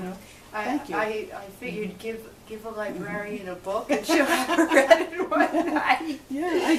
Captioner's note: both laugh